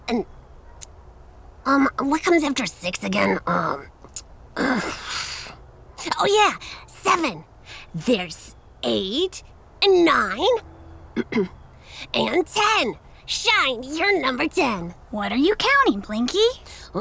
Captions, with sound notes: And what comes after six again? Oh yeah. Seven! There's eight and nine. (Shine clears throat) And 10. Shine, you're number 10. - What are you counting, Blinky?